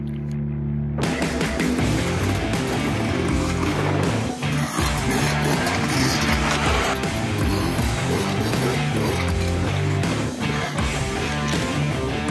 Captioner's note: music and dirt bike sounds